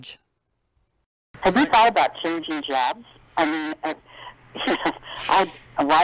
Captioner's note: laughing